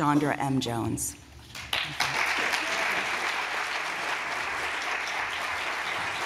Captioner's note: applause